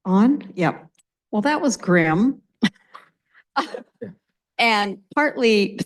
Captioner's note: laughs